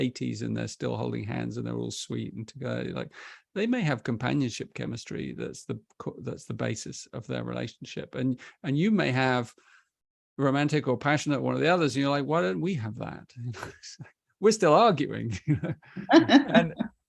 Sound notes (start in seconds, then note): 13.5 chuckles; 15.3 laughter